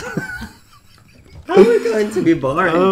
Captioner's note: laughing